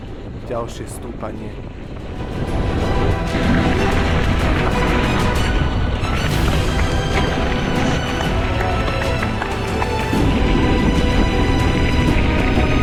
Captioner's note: wind blowing